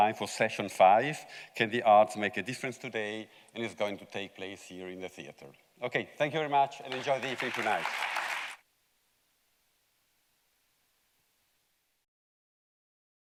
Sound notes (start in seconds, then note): 6.8 audience clapping